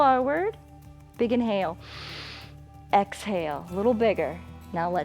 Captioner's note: inhales